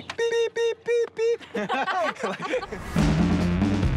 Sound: laughter

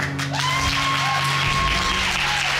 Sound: audience whooping

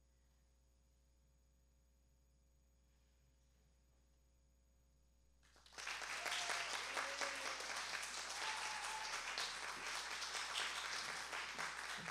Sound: applause

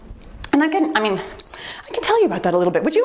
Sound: timer beeps

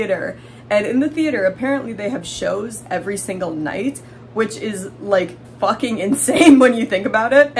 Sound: laughing

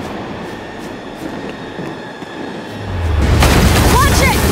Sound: gunshots

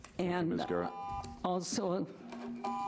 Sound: buzzer rings; buzzer rings

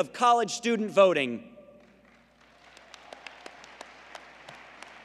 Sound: applause

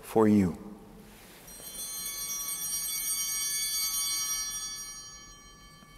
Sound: bell ringing

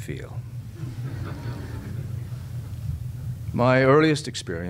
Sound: audience laughs

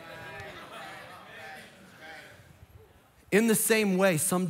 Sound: congregation laughing

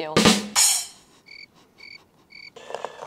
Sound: crickets

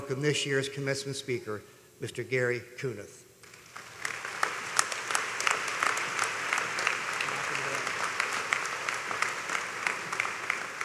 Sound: applause

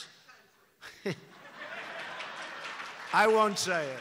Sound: laughter

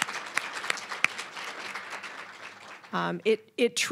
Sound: applause, cheering; applause

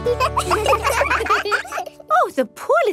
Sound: children laugh

